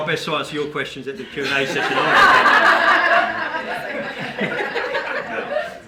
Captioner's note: group laughing